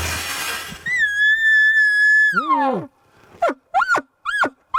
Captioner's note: cow mew